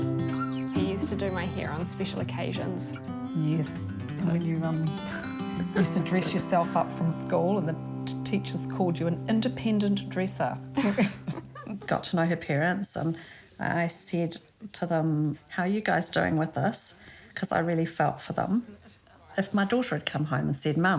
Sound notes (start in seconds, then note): 5.0 chuckles; 10.7 both chuckle